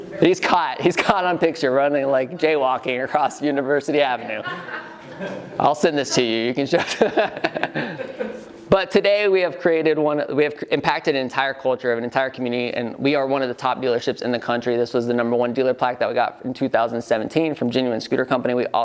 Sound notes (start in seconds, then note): 4.3 laughing